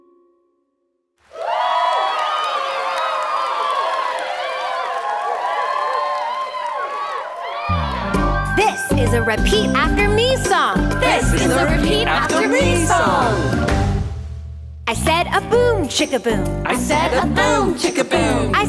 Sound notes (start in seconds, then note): 1.3 friends cheering; 7.7 upbeat music